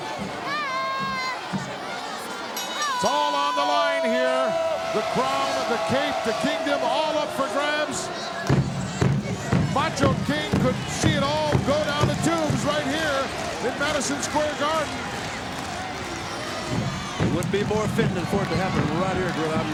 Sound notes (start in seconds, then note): 2.5 bell rings